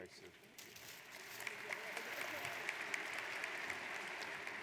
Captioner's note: audience applauds